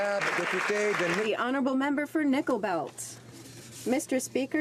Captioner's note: applause